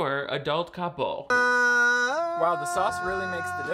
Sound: Shane humming

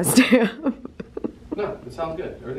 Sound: giggles

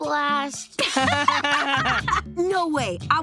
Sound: laughing

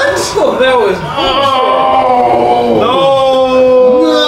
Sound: groans

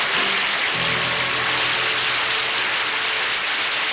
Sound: audience applauds

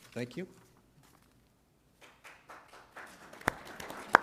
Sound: applause

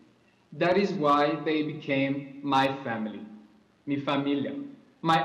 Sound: spanish

